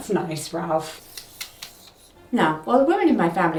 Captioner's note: pointer scraping